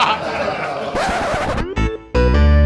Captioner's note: laughter; record scratch; upbeat music